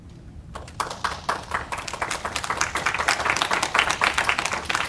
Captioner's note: audience applauding